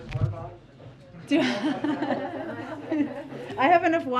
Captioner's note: laughter